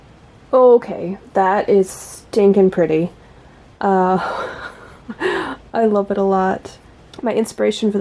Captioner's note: laughs